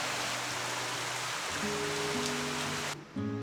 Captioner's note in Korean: 시원한 빗소리